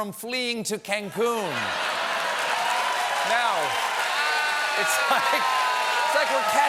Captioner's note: laughter; cheers and applause